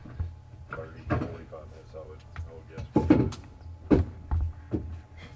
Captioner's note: chatter